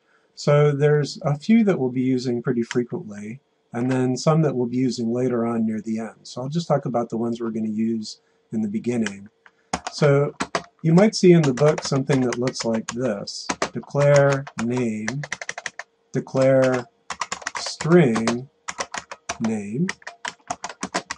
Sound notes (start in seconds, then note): 14.9 keyboard clicks